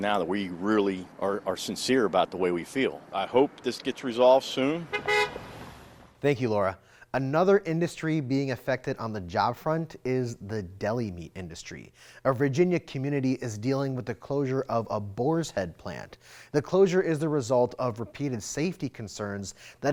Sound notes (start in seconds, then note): 4.8 horn honking